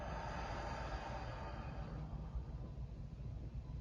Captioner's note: exhales